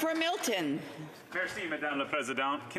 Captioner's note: some Applause